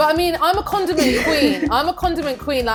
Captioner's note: laughs